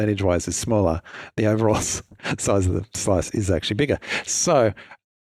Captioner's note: chuckles